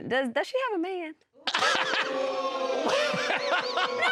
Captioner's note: all laughing and exclaiming